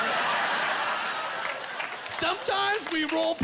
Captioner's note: laughing